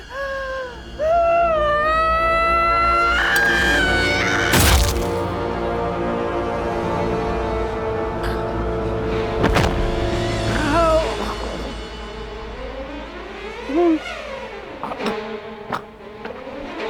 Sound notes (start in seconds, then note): 0.9 suspenseful eerie music; 1.0 screams; 13.5 eerie sinister music